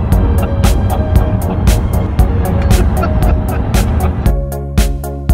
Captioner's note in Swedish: Pappa skrattar